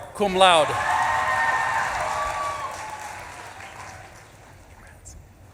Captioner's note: audience claps and cheers